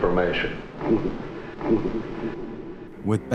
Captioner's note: giggles